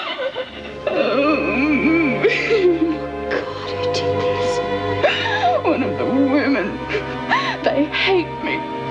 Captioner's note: moans in pain